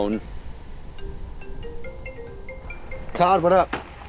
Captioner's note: phone ringing